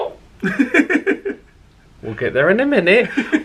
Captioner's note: chuckles